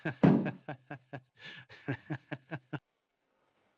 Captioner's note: laughter